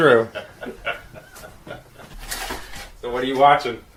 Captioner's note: Roger laughing